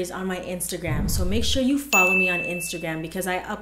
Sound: ding

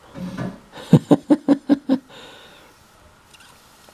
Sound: laughing

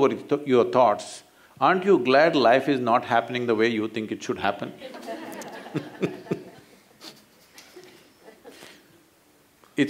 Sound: laughter

